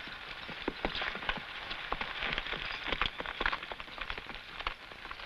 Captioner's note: horse hooves pattering